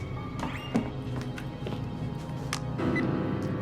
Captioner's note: phone beeping; ominous orchestral music; phone beeping